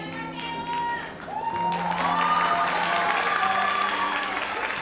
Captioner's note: audience applauds